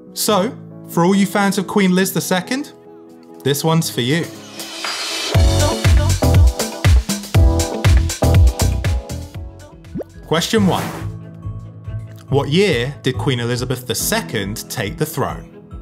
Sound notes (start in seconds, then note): 3.9 upbeat music; 10.5 number pops and whooshes